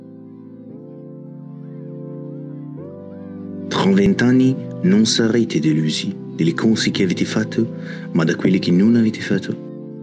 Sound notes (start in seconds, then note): 3.6 French accent